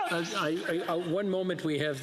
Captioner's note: laughter